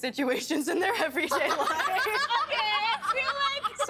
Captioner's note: laughing